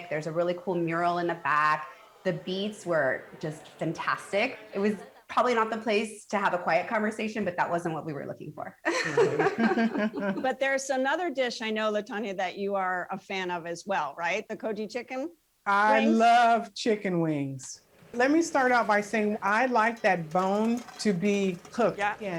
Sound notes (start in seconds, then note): 8.8 laughter